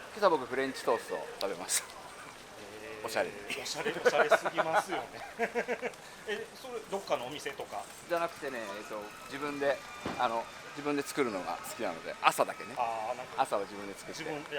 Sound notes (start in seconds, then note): 6.0 laughs